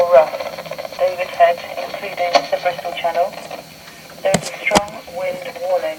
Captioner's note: woman speaking on radio